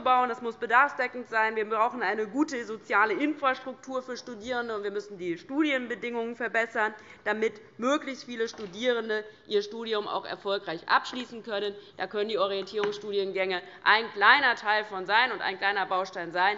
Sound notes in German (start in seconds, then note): none